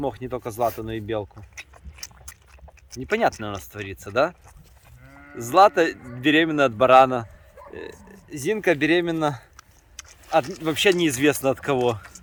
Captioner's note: mumps